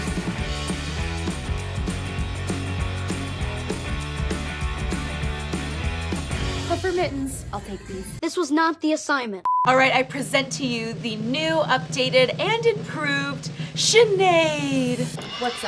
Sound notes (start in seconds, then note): 9.4 beeping